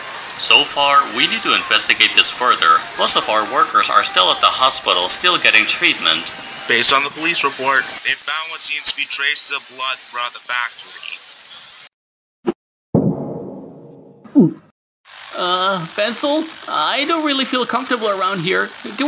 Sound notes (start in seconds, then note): 14.3 gulp